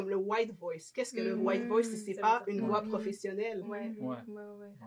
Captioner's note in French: white voice